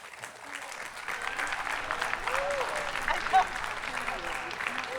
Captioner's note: attendees clapping